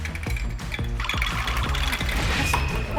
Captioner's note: rattle